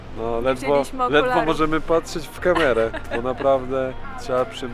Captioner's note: laughs